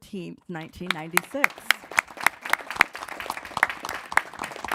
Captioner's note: board applauding